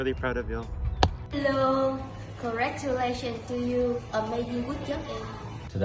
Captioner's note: speaking foreign language